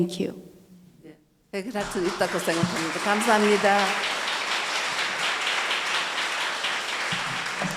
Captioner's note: speaking foreign language; audience applauding